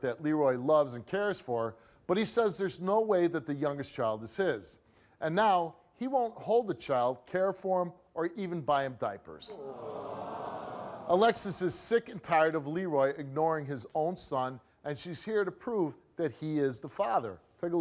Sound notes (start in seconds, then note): 9.5 audience groans